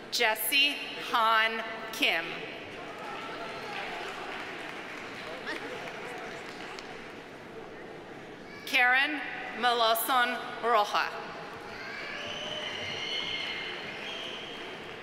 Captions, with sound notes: Jesse Han Kim. (audience applauding) Karen Melancon-Rojas. (audience applauding)